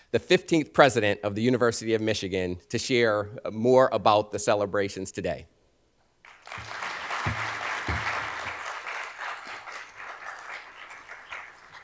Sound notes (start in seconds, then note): 6.2 attendees applauding